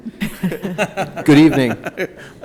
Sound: laughing

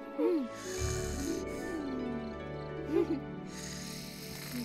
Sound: both giggle softly; snores lightly

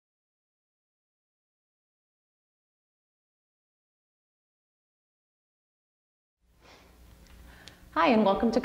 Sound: silence

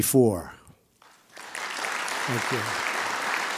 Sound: audience applauding

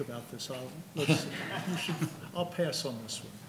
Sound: laughing

